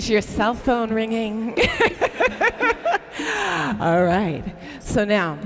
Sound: laughs

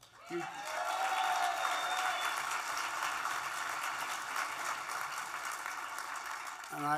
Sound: applause

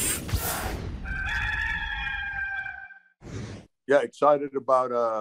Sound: rooster crowing

